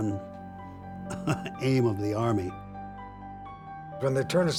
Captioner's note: chuckling